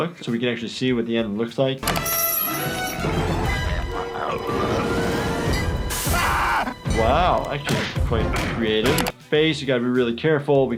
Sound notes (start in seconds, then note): 2.9 chicken groaning; 5.9 Peter screaming